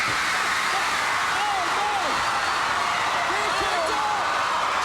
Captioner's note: audience roaring